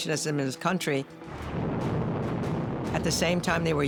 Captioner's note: explosion booming